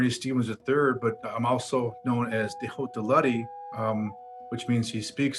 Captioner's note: speaks foreign language